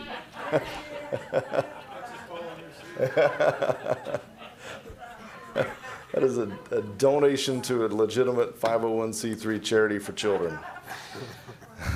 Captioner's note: laughter